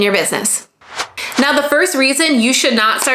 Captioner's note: transition swooshing